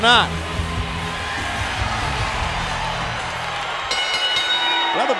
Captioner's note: crowd cheering; bell ringing